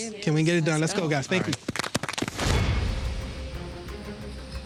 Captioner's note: all applauding; dramatic music